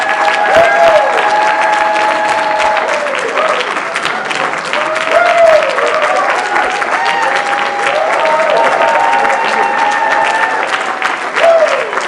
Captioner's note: applause